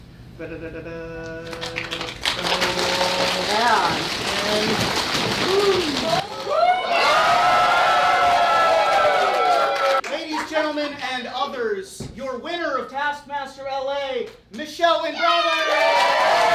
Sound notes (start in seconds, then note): 0.4 humming; 2.5 audience drum roll; 6.2 audience cheers; 15.2 audience cheers